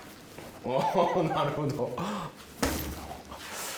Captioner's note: laughs